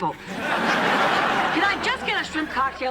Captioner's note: laughter